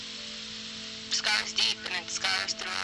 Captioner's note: static hissing